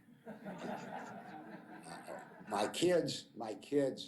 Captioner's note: laughter